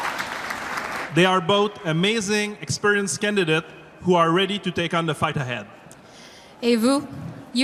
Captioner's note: applause